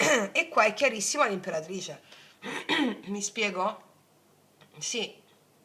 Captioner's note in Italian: schiarire la voce